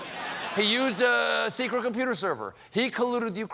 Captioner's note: laughter